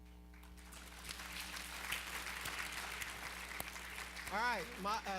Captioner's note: applause